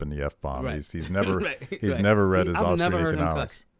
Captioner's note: laughs